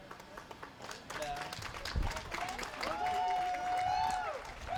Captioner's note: applause